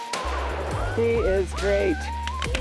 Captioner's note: gun fires